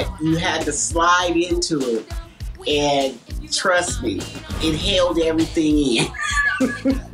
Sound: laughing

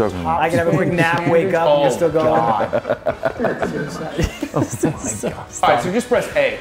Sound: laugh

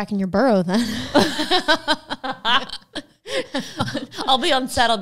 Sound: both laughing

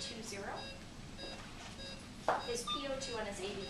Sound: machines beeping

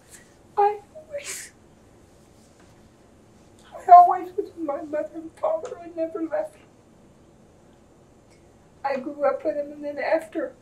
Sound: cries

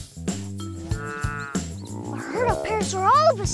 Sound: dinosaurs grunting

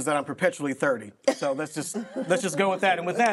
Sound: group laughing

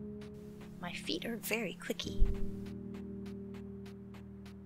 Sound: clicky footstep noises

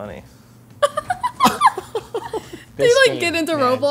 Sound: laugh

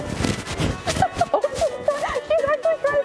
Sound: chuckles

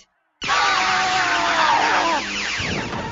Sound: they yell in pain

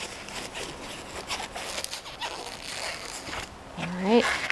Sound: gloves squeaking

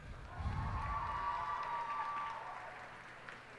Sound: cheers and applause

